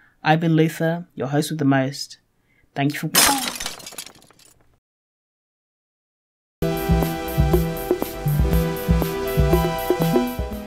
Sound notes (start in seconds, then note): 3.1 shatter followed by bonk